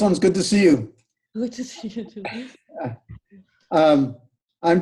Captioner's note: laughs